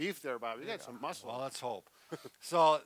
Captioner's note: chuckles